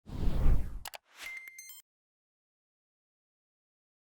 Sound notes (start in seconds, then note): 1.2 pings